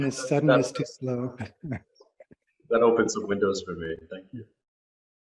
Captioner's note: laughter